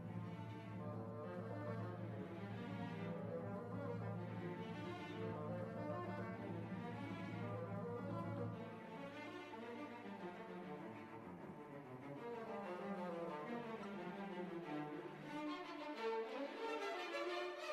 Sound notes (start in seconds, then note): none